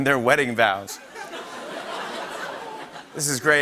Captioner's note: laughter